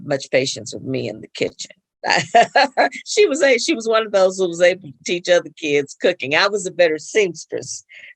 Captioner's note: laughs